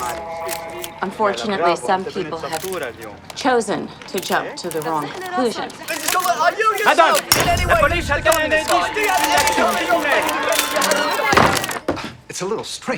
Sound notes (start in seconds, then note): 5.5 cameras clicking; 5.5 reporters chattering